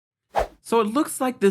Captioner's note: screen whooshes